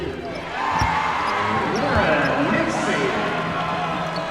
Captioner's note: cheers and applause